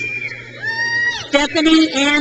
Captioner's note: crowd cheers